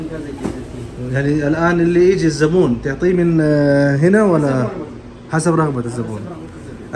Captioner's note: talking in Arabic